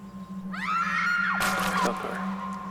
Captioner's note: screaming